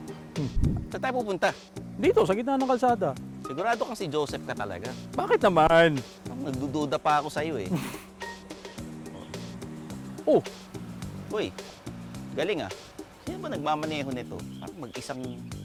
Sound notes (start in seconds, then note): 7.6 scoffs